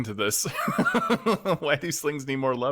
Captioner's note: laughs